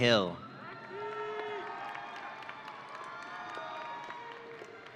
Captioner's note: audience cheering